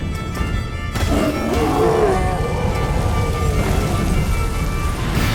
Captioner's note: groan, howls